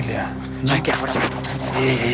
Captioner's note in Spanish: Hablan al unísono